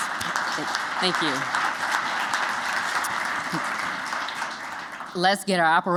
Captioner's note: applause